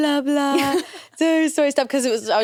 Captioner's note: laughs